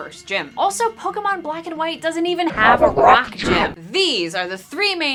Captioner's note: voice becoming distorted and horrifying